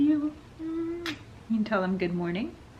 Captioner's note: singly voice; lips smack